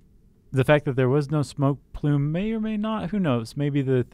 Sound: none

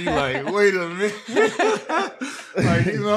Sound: all laughing

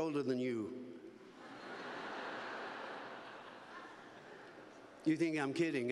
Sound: laughter

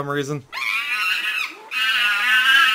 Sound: eeaaaaaaah

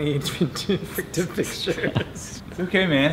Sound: laughter

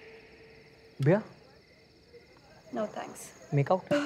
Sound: none

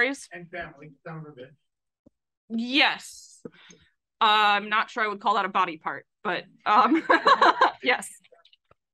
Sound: laughs

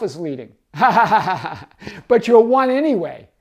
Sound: laughs

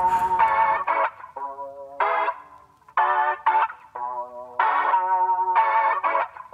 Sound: shake shake

